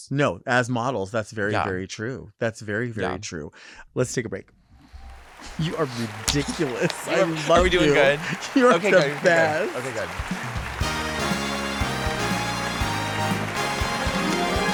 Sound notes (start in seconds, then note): 4.8 audience clapping; 11.1 upbeat music